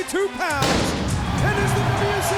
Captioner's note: bomb exploding